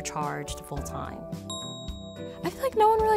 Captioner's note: bell dings